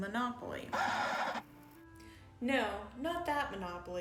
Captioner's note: record scratch